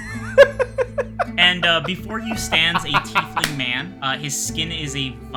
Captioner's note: laughter